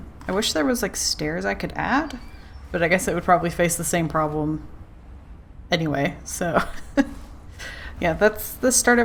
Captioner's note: laughs